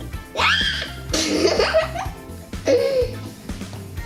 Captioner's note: shriek and giggles